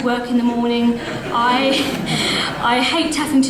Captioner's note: audience laughs